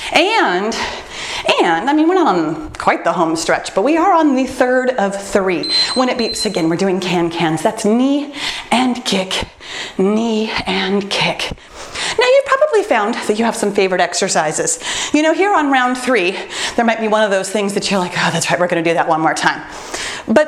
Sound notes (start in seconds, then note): 5.6 timer beeps